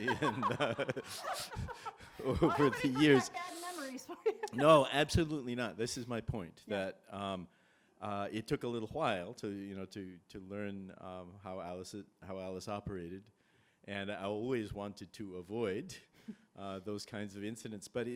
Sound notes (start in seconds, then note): 5.0 laughs